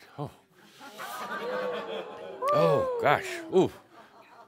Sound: audience says “Ohh!” and some chuckles

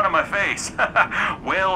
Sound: laughs

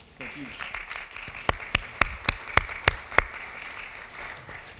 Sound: audience applauding

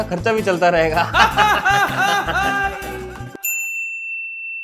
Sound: laughing

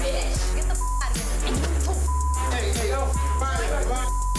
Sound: beep

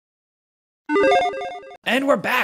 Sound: upbeat video game beeps

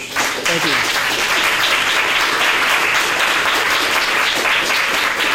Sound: audience applauding

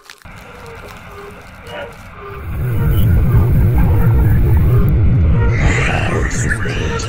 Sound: otherworldly noises

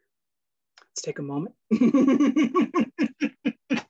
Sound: laughs

